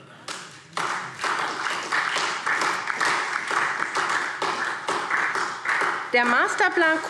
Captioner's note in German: Beifall SPD